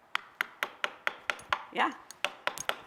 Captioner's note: hammer knocking